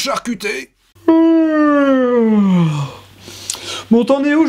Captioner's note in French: baillement